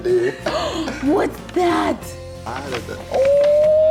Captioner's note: gasps